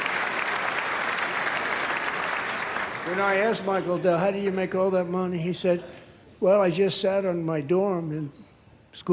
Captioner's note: applause